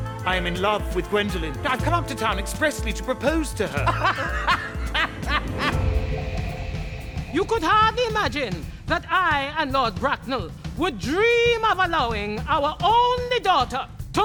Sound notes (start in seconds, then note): 3.7 laughs loudly; 5.7 driving drums